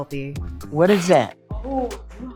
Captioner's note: pat